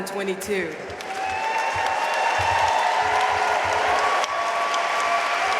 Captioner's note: audience cheering and applauding